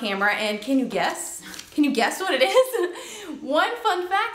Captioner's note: laughs